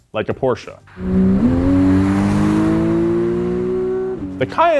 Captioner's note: engine revs